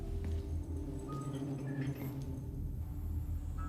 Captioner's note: door opens